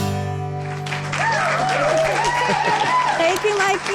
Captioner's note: audience applauds